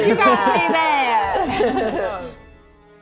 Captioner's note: laughing